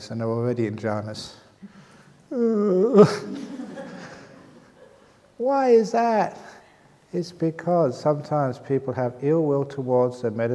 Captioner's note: laughter